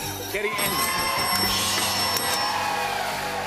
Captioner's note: dinging